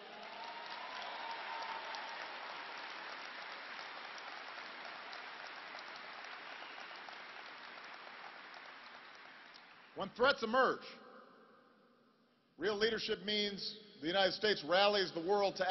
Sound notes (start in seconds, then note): 6.1 applause